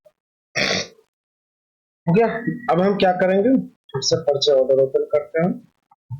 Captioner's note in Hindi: नाक से की जाने वाली आवाज़